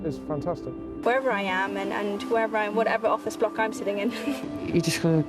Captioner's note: laughs